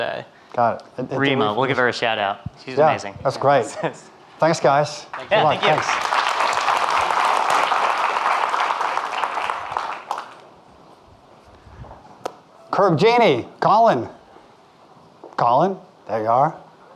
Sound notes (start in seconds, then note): 5.0 audience clapping